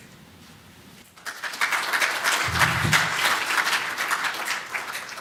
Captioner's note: applause